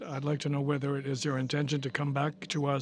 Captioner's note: speaking french